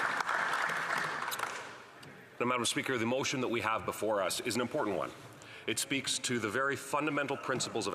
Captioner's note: applause